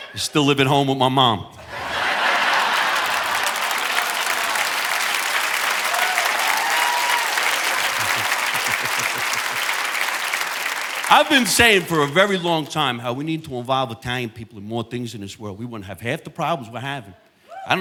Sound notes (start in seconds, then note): 1.6 audience laughing; 2.0 audience applauding; 7.6 chuckles